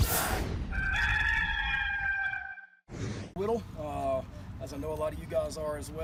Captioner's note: rooster crowing